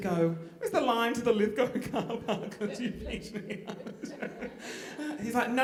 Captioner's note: crying